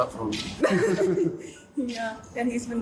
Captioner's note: Meghan and Harry laughing